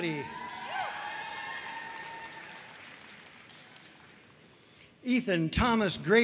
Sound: audience cheering and applauding

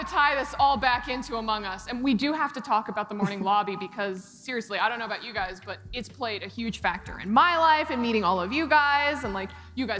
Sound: laughter

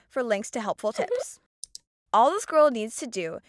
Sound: squirrel chuckles

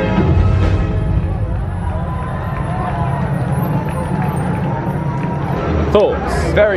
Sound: crowd cheers; fireworks bang

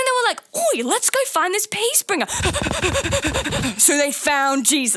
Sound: huffing

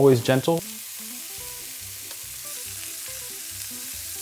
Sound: pan sizzling

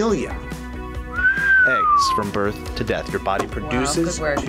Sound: whistles

